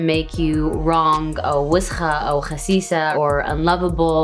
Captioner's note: speaking in Arabic